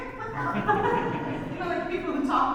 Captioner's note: audience laughs